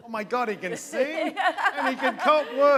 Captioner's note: laughter